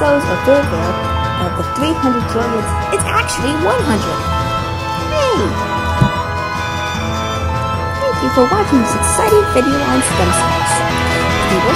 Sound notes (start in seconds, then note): none